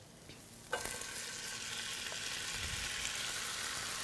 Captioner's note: sizzling sounds